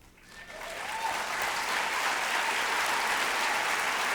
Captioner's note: applause